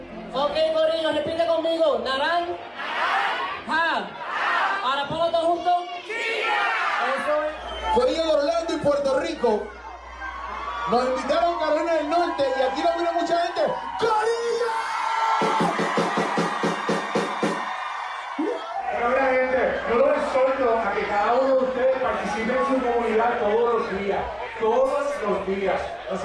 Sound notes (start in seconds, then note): 3.6 crowd; 7.2 crowd; 18.0 crowd; 18.7 cheers